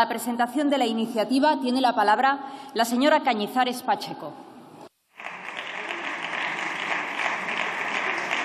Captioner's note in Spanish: Aplausos